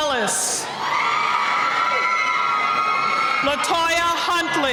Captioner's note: cheering